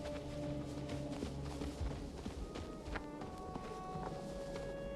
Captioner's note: foreboding music peaks; footsteps padding